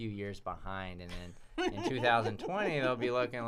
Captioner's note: laughs